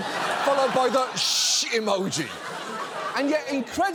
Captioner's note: audience laughing